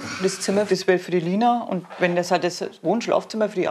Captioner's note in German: Mutter